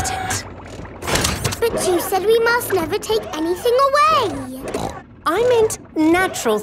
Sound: snorts

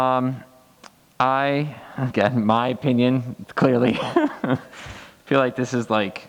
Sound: laughs

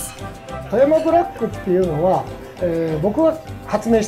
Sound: foreign language

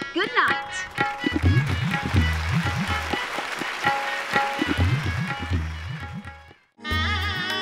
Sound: audience cheering

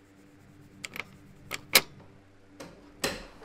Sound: front door unlocks and shuts

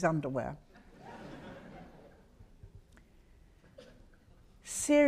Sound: audience laughs

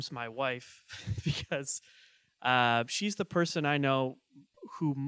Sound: laughing

